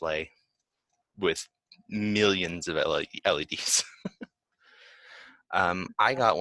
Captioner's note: laughs